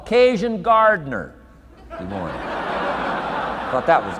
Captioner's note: audience laughing